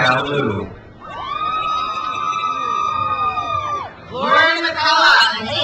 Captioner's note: crowd cheers